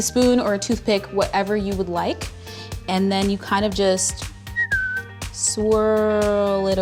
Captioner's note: whistles